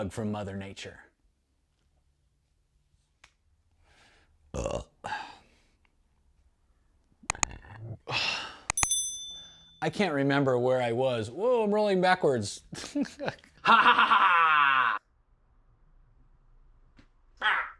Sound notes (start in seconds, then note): 4.5 belching; 8.7 bell dinging